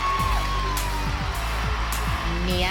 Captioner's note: applause